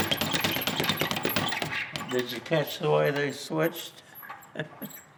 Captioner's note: boxing bag rattling